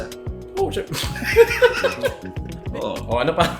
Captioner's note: both laugh